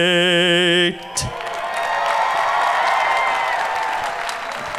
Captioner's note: audience cheering